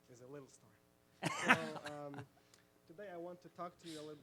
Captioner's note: laughs